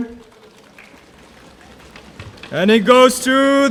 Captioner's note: audience drumming